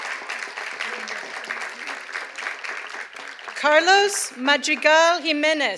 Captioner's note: cheers and applause